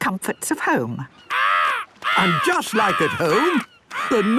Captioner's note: seagull cries